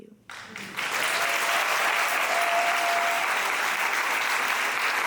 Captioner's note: audience applauding